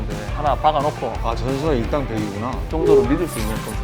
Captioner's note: ahhhh